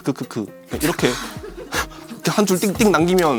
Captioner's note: gasp